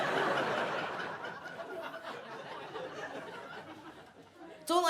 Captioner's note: audience laughs